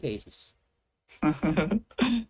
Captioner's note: chuckles